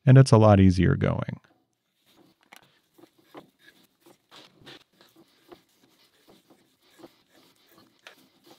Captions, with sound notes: and it's a lot easier going. (tool spinning)